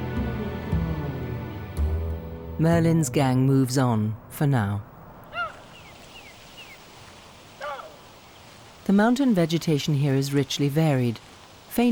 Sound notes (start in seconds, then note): 5.3 baboon chattering